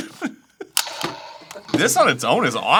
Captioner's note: 🔫 pew 🔫